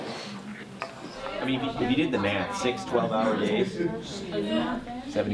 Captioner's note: conversations occurring between students